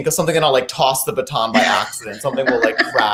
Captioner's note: laughing